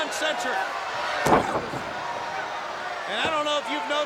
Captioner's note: crowd cheering; body thudding